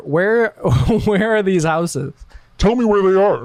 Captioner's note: laughs